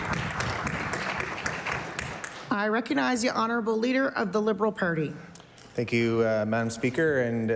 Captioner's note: applause